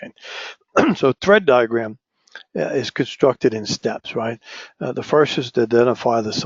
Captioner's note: cough